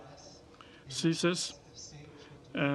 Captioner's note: speaking French